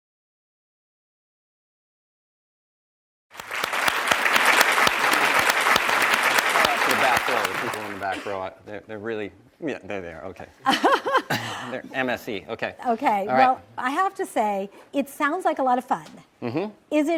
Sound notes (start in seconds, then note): 3.3 audience applauds; 10.7 laughs